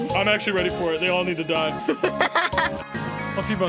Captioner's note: laughs